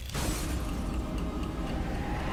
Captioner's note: explosion